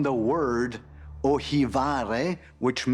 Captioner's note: speaks Greek